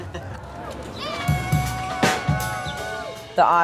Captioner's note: group cheers